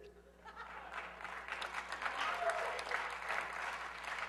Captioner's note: risas y aplausos